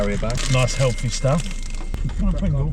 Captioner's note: dinging